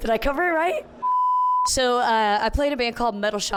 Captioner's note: beep